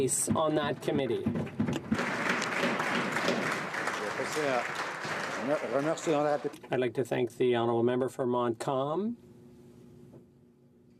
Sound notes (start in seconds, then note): 4.6 applause